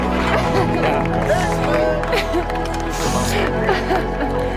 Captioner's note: cries